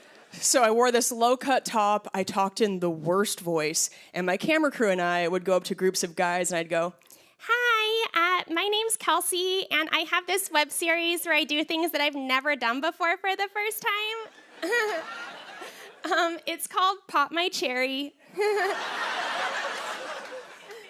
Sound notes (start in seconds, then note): 7.1 high-pitched voice; 14.3 laughter; 18.3 laughter